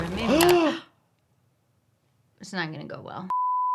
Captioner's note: both gasping